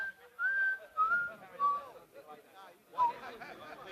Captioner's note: whistling